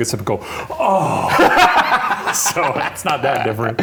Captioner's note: laughing